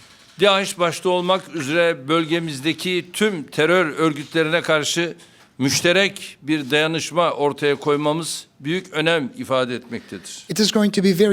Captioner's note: speaking Turkish